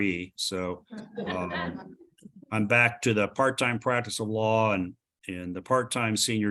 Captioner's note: laughter